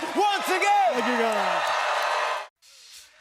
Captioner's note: cheers and applause